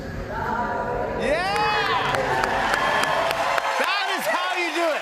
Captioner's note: cheers and applause